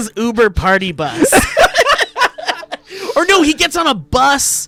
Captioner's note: laughing